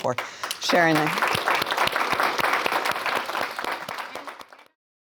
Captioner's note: audience applauding